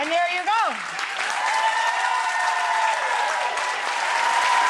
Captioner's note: audience applauding